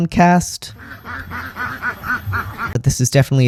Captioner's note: ducks quacking